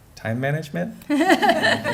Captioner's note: laughter